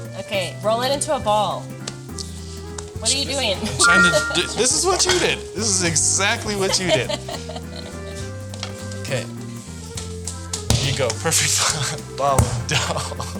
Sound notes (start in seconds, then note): 3.8 text chiming brightly; 4.1 laughing; 8.0 laughing